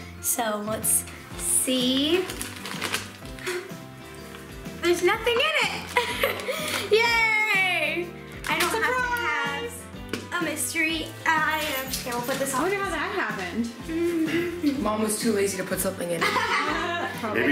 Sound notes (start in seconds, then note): 3.2 gasps; 5.9 laughs; 14.0 humming; 16.2 laughing